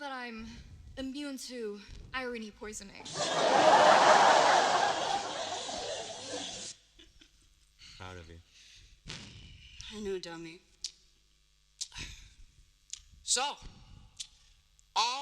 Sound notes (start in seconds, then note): 3.0 laughter